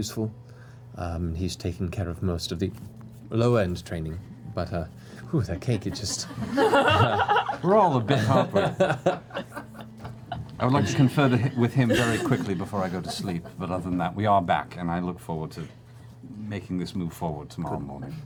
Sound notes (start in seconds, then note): 5.3 laughter